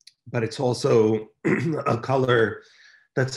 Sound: clears throat

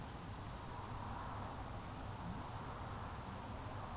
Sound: wind blowing

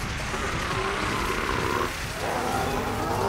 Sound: grunting

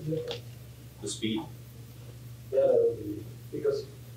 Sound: plastic crinkling; plastic crinkling

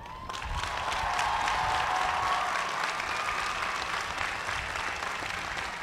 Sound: cheers and applause

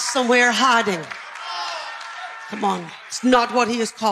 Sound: congregation chatter

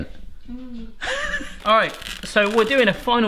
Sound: laughing

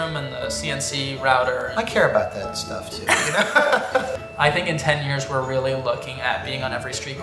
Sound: laughing

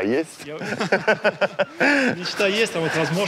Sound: laughs

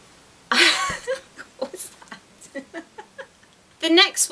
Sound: laughs

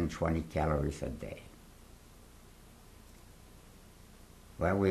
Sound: pauses for 3 seconds

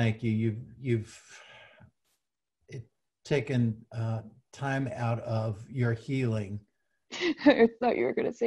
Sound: laughs

